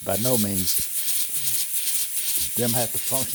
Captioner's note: steam engine whooshing